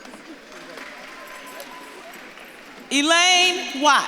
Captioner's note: audience claps and cheers